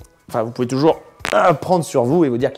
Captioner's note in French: articulations qui craquent x5